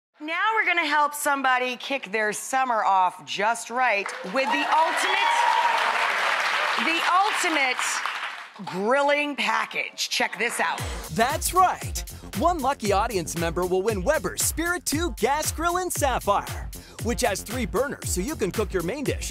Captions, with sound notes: Now we're going to help somebody kick their summer off just right, with the ultimate, (cheers and applause) the ultimate grilling package, check this out. That's right, one lucky audience member will win Weber spirit two gas grill in sapphire, which has three burners so you can cook your main dish